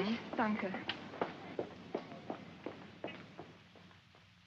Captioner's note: Frederica's footsteps